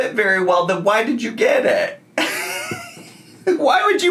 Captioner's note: laughs